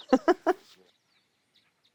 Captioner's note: laughs